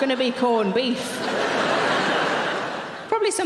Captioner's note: audience laughing